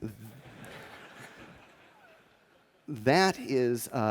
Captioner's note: laughter